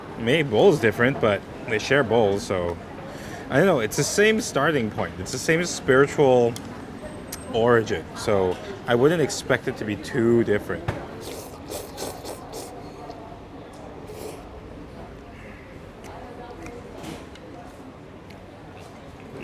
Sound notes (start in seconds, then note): 11.2 slurping